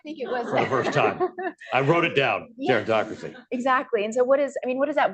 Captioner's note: laughter